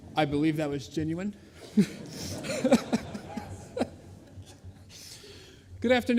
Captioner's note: laughter